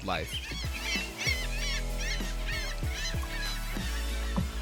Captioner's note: birds squawking